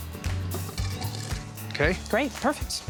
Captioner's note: scraping sound